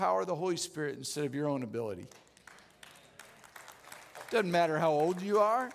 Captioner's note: audience Clapping